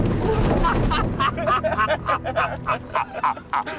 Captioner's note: they all laugh